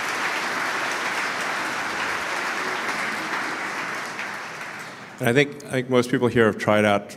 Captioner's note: Applause; 鼓掌